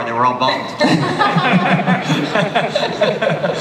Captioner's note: laughter